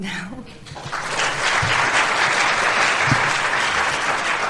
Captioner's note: applause